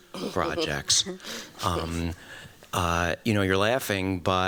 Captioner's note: laughter